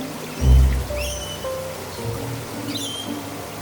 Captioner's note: birds chirping